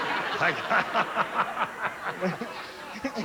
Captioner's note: laughs